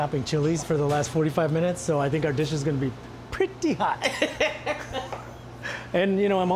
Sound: laughing

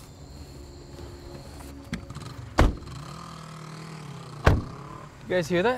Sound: motorcycle in distance

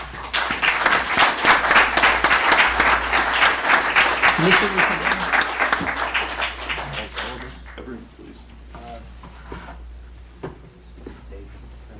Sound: applause

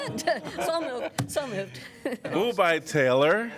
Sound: laughter

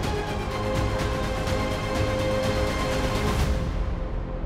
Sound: none

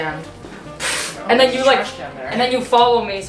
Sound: imitates loud sound

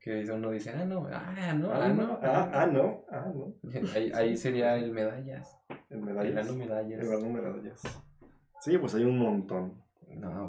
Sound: all joking & laughing about it

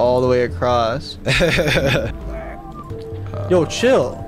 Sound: laughing

